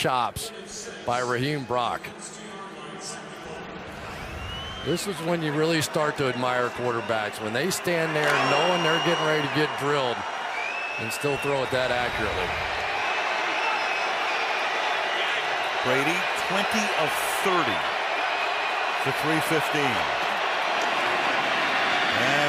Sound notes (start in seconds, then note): 2.6 pa announcement